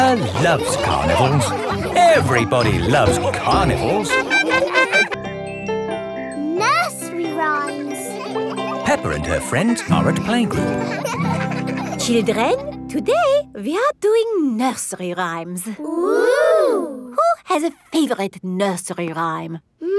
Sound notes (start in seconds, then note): 4.4 laughing; 10.9 children laughing